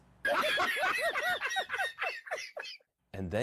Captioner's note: Ketawa